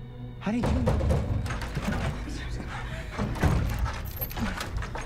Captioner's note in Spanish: Golpeando la puerta